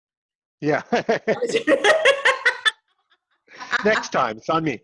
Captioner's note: laughs